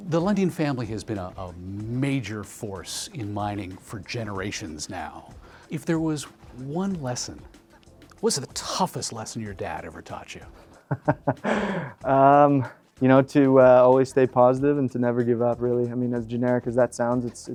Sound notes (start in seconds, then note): 10.8 laughing